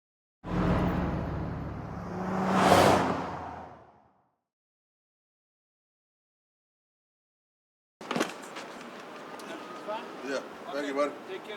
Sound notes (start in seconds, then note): 2.7 whoosh; 8.0 car door opens